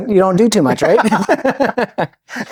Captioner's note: both laughing